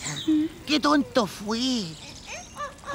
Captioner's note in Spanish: Sonido de la naturaleza